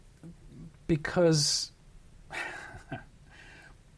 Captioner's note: chuckles